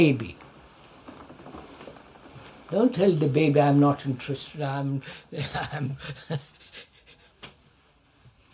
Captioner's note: laughs